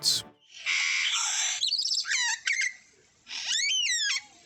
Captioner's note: bird chirping